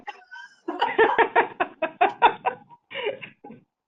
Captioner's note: laughing